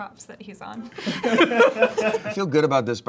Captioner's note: both laughing